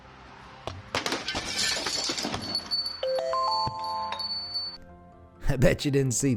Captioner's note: glass shattering; bell ringing